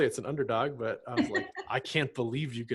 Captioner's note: laughs